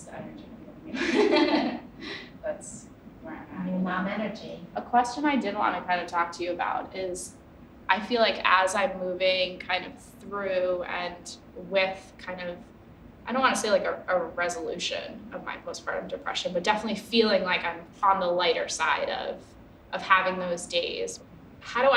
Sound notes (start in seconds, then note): 0.9 laughing